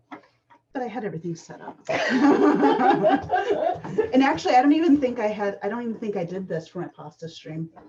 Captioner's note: laughter